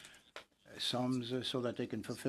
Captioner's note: speaking French